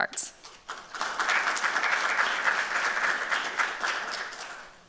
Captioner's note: applause